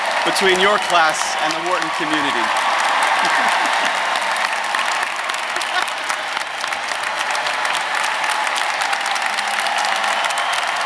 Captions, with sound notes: between your class and the Wharton community. (audience applauding) (audience cheering)